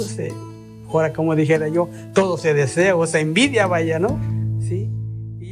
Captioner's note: speaking in foreign language